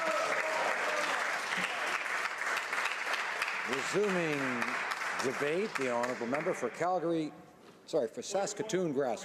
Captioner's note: cheering and Applause